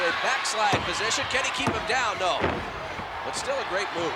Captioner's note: body thudding